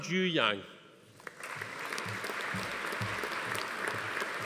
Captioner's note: audience applauding